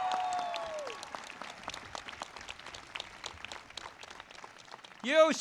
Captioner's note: audience cheers and claps